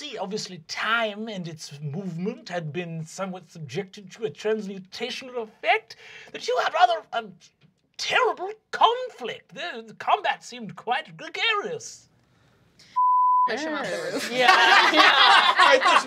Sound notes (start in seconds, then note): 12.9 beeping; 13.8 group laughing